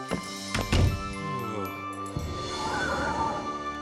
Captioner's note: frustrated sigh